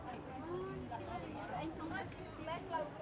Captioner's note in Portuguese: Sons de conversas na feira